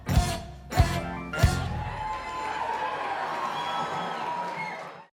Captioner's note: applause